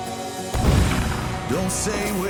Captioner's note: gunshot